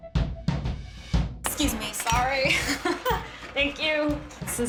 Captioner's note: laughs